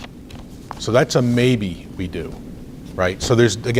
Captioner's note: rustles papers